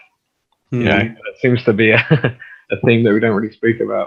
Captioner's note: laughs